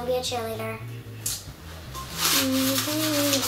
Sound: humming; rustling

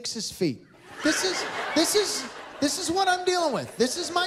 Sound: laughter

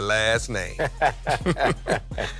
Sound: laughter

